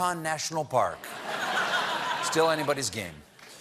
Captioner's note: laughter